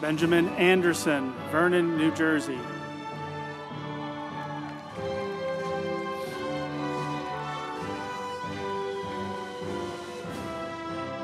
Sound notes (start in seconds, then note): 2.9 group applauding; 4.3 uplifting music